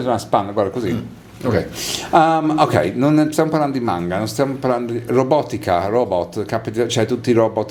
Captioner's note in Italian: sbuffare